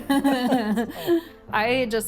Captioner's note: both laugh